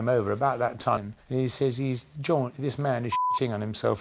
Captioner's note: beep